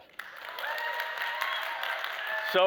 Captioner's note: applause